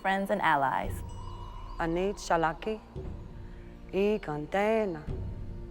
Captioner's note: speaking Cherokee